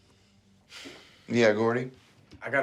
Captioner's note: sighs